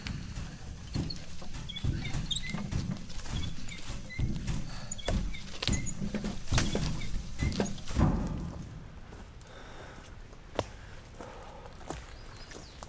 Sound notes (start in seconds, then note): 1.9 eerie squeaking wheel